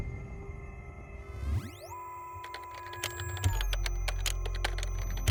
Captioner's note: machine clicks and whirs